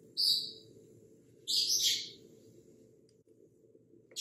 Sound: bird chirping

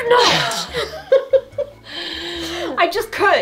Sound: women laughing

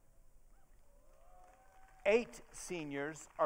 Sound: audience cheering

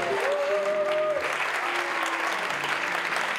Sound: cheers and applause

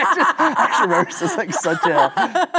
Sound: both laughing

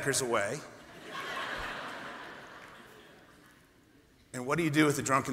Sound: laughter

